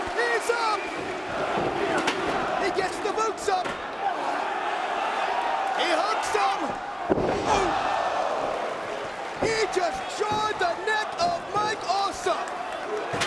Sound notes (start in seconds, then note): 6.8 bodies slamming